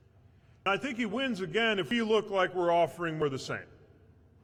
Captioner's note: none